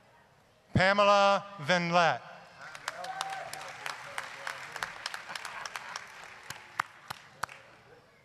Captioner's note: applause